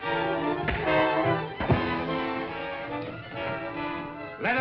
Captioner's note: punch thuds